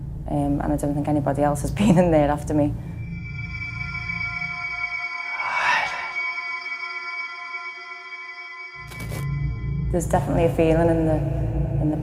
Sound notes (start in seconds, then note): 5.8 ghostly whispering